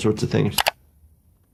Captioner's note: mouse clicking